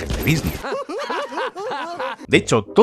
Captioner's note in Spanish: risas